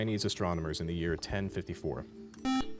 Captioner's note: beep